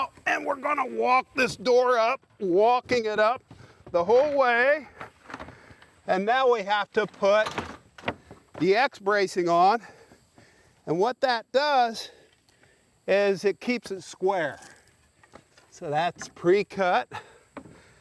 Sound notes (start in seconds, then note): none